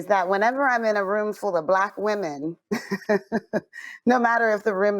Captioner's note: chuckles